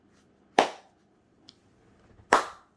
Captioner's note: clapping